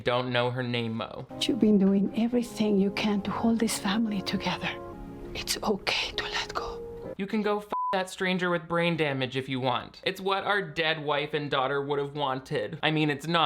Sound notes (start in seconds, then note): 7.7 beep